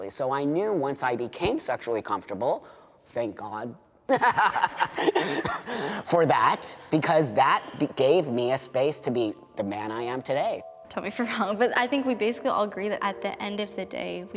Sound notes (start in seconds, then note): 4.1 laughing